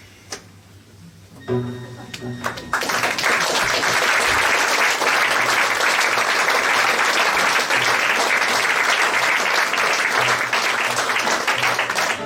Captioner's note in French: Applaudissements